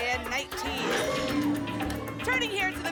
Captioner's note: lock sound